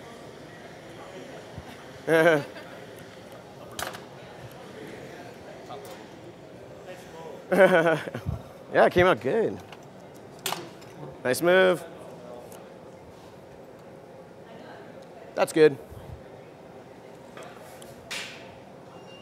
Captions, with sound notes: (Laughter) Yeah it came out good. Nice move. That's good.